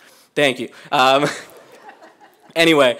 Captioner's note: laughter